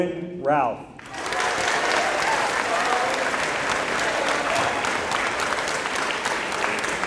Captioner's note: applause